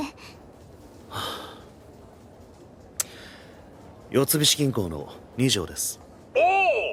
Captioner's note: sighs